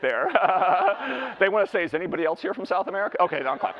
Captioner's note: laughs